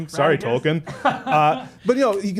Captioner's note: soft laughing